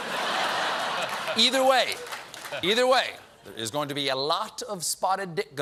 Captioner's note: laughter